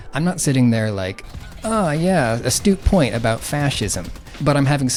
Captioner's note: over sound of machine gun fire and screaming bots